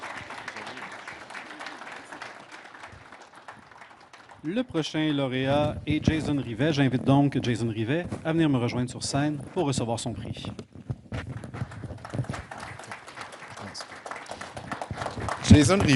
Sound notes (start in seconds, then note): 0.0 applause; 6.6 speaking French